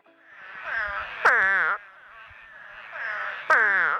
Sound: frog croaking

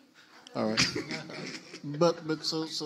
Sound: laughs; panelists laugh

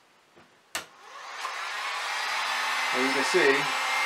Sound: heat gun buzzing

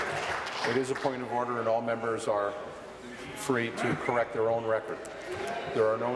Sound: applause

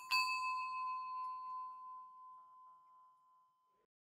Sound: bell dinging

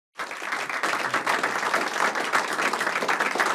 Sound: applause

